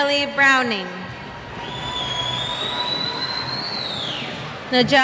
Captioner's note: cheers